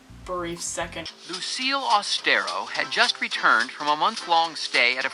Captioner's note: voiceover